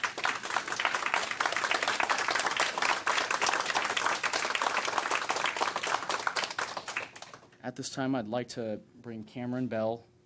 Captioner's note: applause